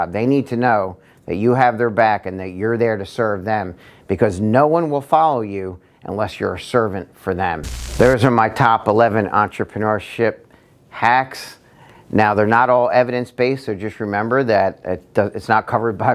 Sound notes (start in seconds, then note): 7.6 static buzzing